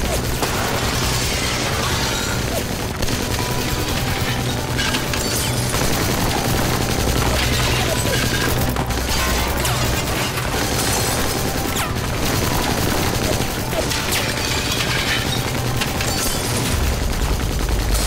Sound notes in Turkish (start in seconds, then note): 1.6 Gerilim müziği; 1.6 Silah sesleri